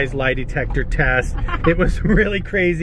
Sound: laughs

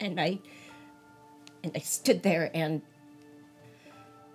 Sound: none

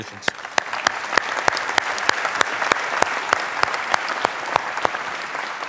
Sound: applause

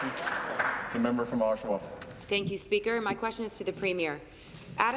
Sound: applause

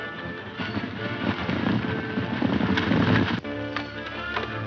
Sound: horses galloping

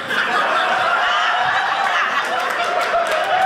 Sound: audience laughing

